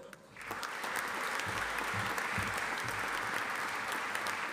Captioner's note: audience applauding